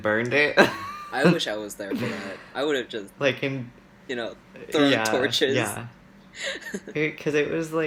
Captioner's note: laughs